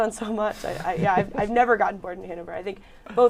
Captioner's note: laughter